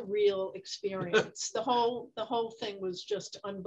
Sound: Ken laughs

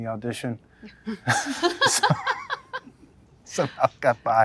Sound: all laugh

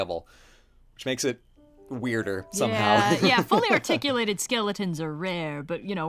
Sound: laughs

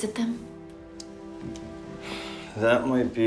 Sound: resigned sigh

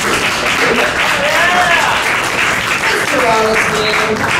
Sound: applause

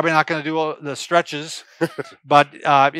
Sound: chuckles

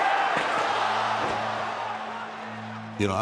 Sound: loud crash; crowd shouting

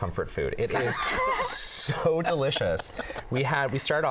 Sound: laughter

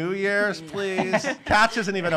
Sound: laughing

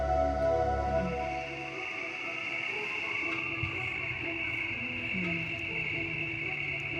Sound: צרצרים מצפצפים

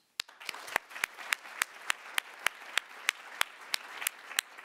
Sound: audience applauding

